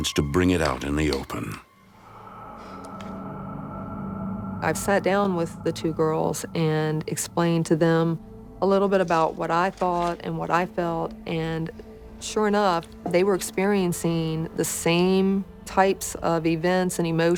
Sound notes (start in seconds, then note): 2.1 sighs